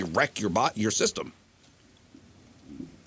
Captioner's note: none